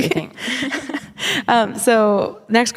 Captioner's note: laughing